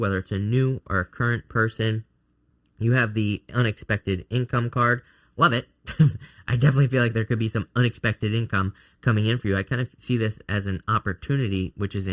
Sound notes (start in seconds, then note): 5.9 laughs